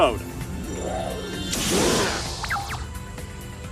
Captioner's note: decoy dragon growls